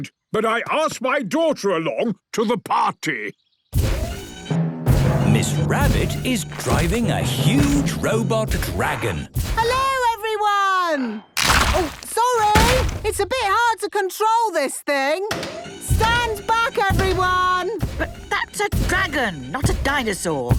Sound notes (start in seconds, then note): 3.4 thudding, mechanical whirring